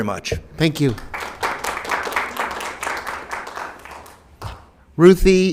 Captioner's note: applause